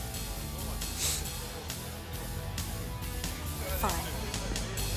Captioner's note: John sniffs